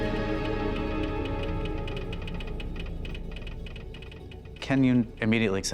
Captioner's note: machine clicking